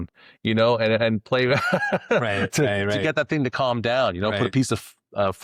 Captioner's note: both Laughing